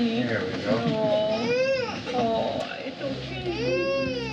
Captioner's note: cries